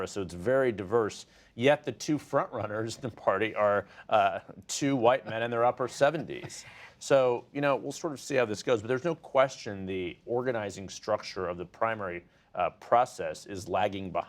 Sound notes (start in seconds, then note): 6.2 laughter